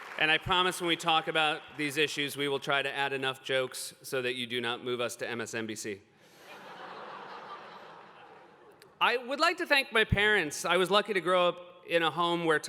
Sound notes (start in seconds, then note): 6.4 laughter